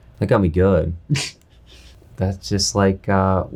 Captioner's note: laughs